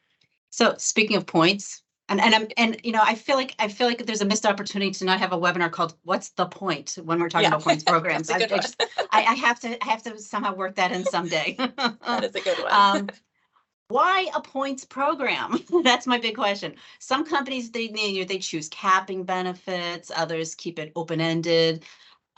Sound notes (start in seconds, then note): 10.9 laughter